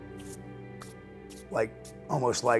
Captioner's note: brushing hands together